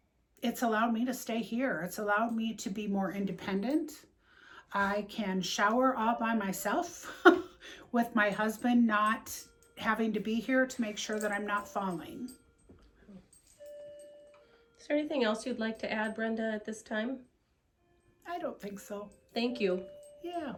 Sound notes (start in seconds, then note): 7.0 laugh